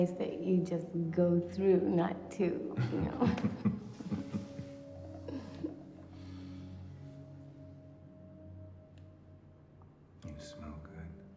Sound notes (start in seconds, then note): 2.8 both laughing